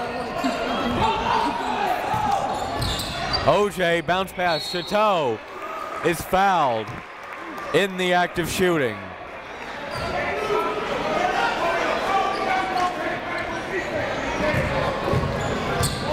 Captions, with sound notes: O.J. bounce pass. Chateau is fouled in the act of shooting. (crowd talking) (coaches yelling)